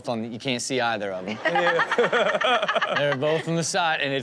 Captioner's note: audience laughs